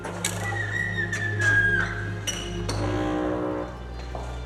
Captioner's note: door creaks